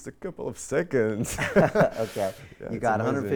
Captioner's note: laughing